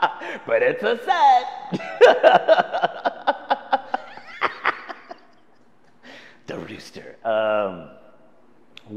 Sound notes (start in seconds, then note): 4.3 laughs